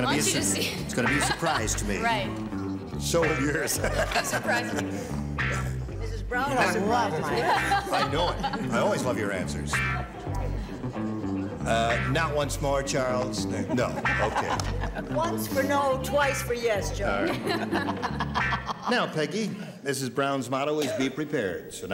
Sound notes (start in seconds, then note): 3.2 laughs; 13.5 laughs; 17.2 both laugh